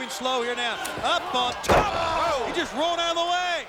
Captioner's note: mat thumping